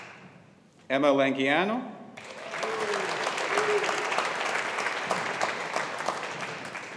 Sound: audience applauding

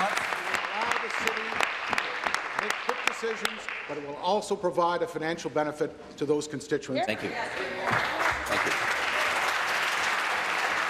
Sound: applause

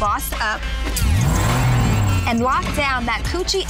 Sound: engine revving

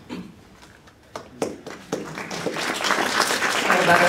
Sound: applause

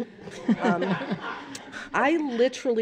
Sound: laughter

